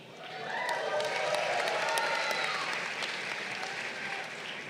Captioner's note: crowd cheering